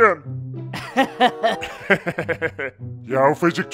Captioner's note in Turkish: Gülme sesi